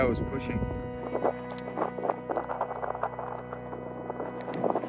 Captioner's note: wind crackling in mic